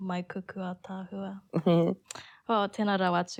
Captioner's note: giggles